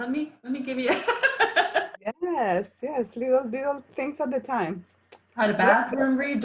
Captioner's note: laughs